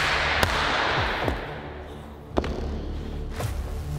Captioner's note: gunshots firing